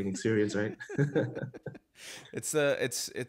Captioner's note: laughing